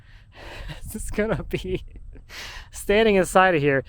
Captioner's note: laughs